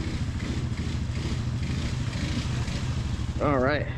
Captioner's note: water waves and splashes